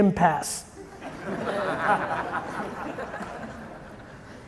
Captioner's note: audience chuckling